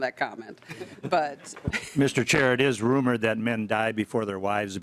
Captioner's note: laughing